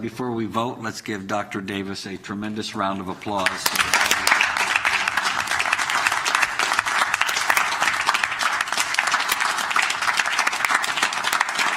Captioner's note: applause